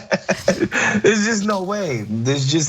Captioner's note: laugh